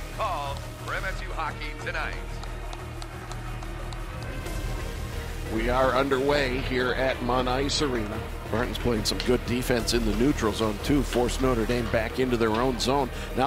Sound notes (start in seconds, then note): 2.2 audience applauding